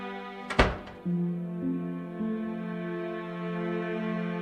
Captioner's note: dramatic orchestral music; door slams